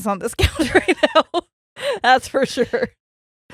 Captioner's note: both laughing